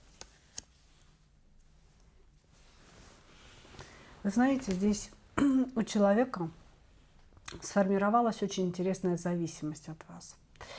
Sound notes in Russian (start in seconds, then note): 5.4 откашливается